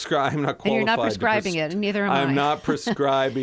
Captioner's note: laughter